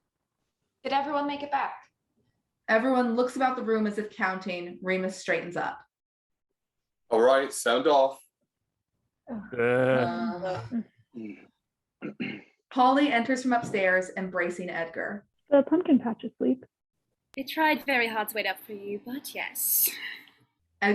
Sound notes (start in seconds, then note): 9.4 group groaning